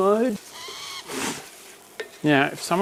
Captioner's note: scoffs